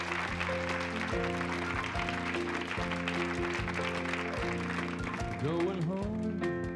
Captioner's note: applause, music starts